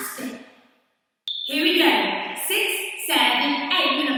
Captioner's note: counting 6 7 8